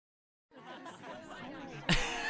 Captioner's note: scattered chatter and laughing; laughing